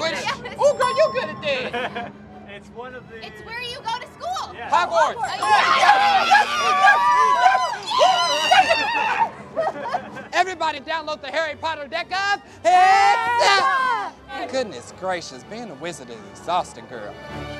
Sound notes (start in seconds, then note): 5.1 ding; 5.4 screaming